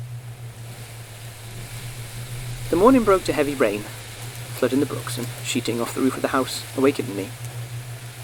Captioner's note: rain, thunder